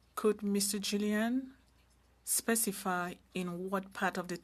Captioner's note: speaking french